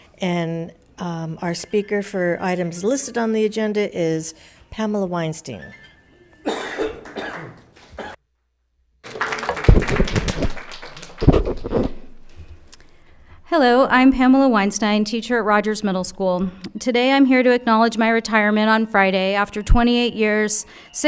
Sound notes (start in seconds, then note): 9.0 applauds